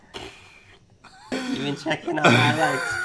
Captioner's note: laughing